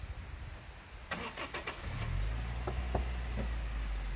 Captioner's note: sounds of the most powerful street-legal car I own firing up